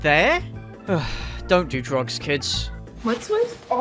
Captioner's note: sigh